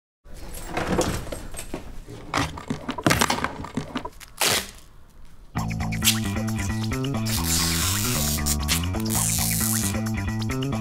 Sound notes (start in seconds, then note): 0.4 clanging; 5.6 upbeat guitar music